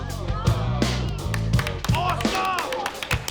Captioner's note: dramatic music; audience applauding